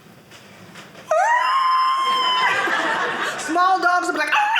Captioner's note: howling